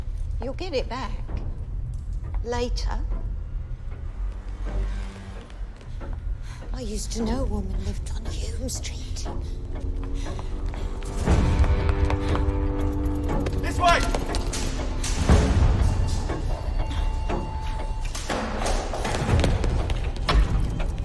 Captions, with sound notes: YOU'LL GET IT BACK... LATER. I USED TO KNOW A WOMAN WHO LIVED ON HULME STREET. ( ticking continues ) THIS WAY!